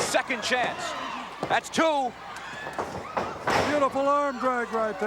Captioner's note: floor banging